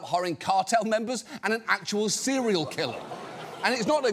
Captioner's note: studio audience gasps